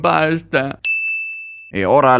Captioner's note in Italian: ding